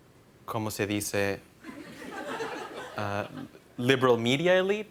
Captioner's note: laughter